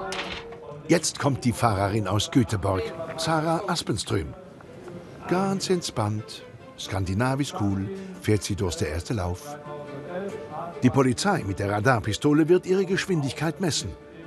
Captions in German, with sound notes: Jetzt kommt die Fahrerin aus Göteborg, Sara Aspenström. (mit schwedischem Akzent:) Ganz entspannt, skandinavisch cool fährt sie durch den ersten Lauf. Die Polizei mit der Radarpistole wird ihre Geschwindigkeit messen.